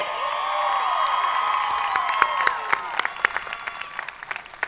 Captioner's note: audience applauding